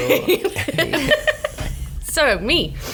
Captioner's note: laughs